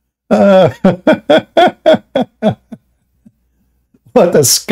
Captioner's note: Ketawa